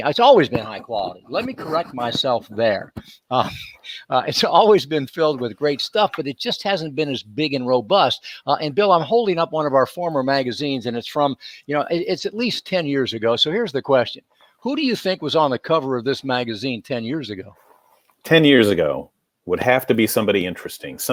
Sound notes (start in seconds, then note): 3.3 chuckles